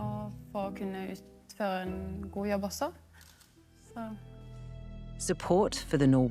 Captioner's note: speaking in foreign language continues